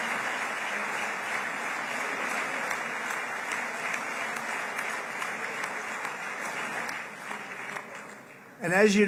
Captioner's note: applause